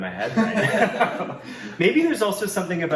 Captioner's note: all laugh